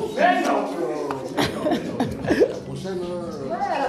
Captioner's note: rires